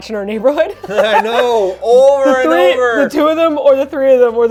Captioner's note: laughs